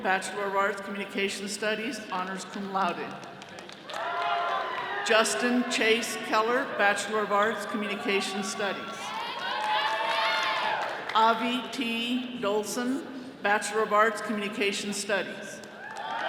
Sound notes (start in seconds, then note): 4.2 attendees cheering; 7.2 all cheering